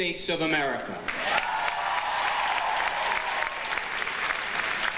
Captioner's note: audience applauding